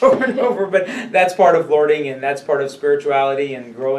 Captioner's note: laughs